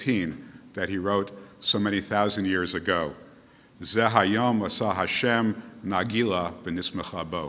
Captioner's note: speaking Hebrew